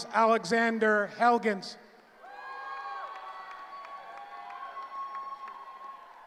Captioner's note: cheering